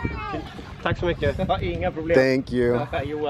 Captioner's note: man off camera speaking Swedish